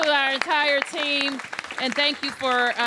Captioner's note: applause